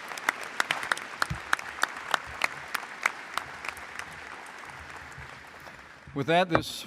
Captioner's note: applause